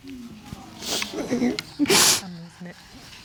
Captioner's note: sobs